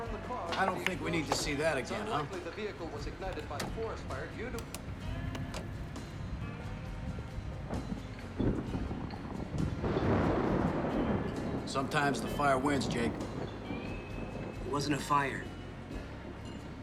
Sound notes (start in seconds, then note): 8.3 thunder